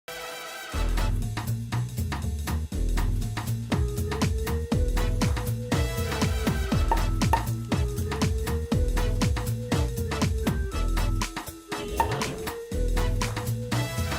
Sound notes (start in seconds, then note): 0.1 upbeat jazz music; 7.3 corks popping